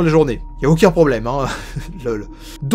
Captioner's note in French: Rire